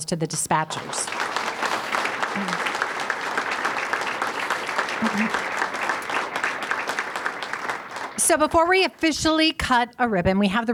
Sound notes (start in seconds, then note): 0.6 audience applauding